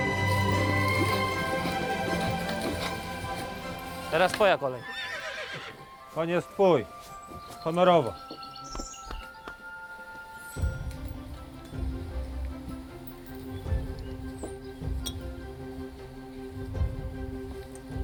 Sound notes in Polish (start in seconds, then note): 1.6 muzyka cichnie; 4.6 rżenie konia